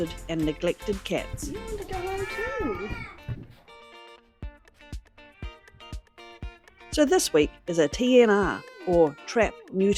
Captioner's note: cat meows